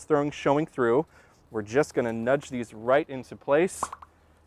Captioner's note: pop, pop, pop